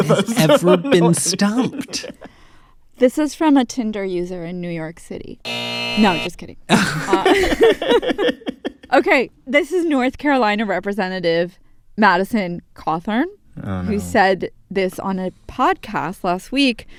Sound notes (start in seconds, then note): 5.4 soundbite of buzzer; 6.7 laughter